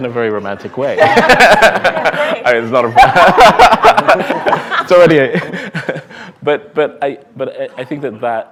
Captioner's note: laughter